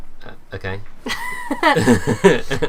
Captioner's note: laughter